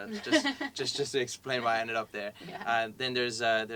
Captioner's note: laugh